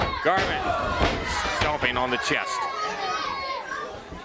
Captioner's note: crowd chatter